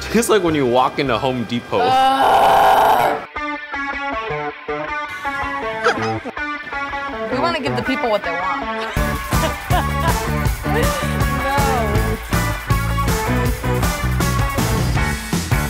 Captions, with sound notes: - It tastes like when you walk into Home Depot. (groaning) - We wanna give the people what they want. (laughing)